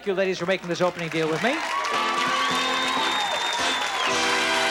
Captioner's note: cheering and applause